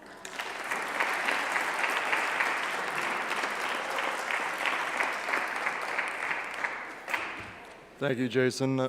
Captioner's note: clapping